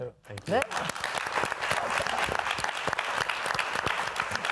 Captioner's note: audience applauding